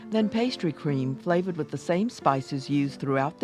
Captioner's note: voiceover